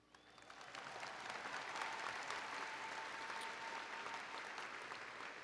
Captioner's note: applause and Cheering